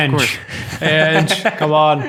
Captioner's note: group laughing